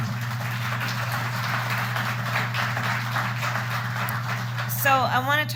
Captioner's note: applause